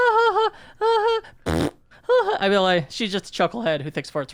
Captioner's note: imitates fart